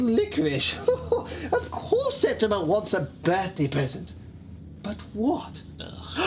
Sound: chuckles

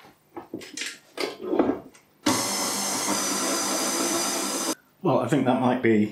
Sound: whirr whirr

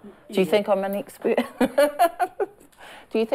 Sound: laughs

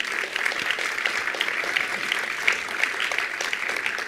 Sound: attendees applauding

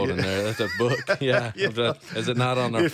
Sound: laughs

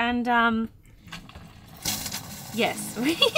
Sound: water trickling

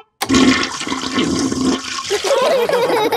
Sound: toilet flushing; laughter

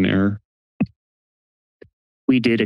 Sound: silence

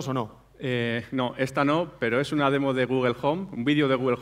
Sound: speaking spanish

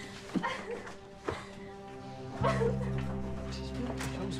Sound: Willow cries

